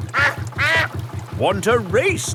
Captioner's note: quacks